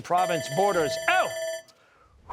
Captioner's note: bell ringing